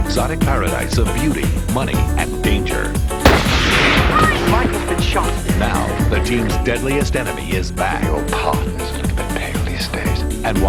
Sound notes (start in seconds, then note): 3.2 gun fires